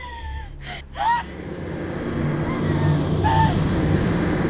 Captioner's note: Connie sobs